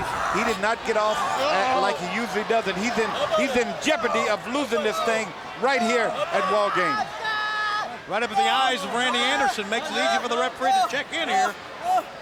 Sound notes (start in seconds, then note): 7.5 Rey Jr yelling